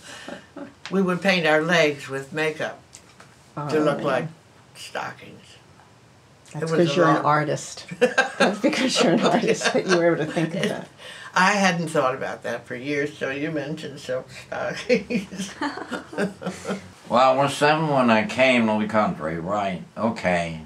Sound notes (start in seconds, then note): 11.1 laughs; 14.7 laughter